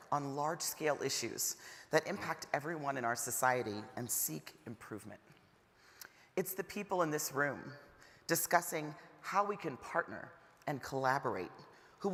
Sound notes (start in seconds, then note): none